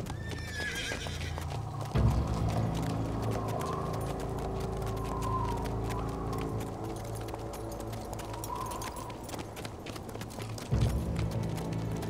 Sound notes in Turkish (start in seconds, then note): 0.1 At kişneme sesi; 2.7 Rüzgâr sesi; 6.0 Müzik - Gerilim